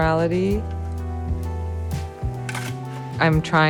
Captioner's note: somber jazz music; shovel scrapes